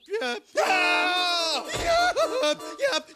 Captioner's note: screams